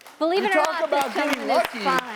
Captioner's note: audience clapping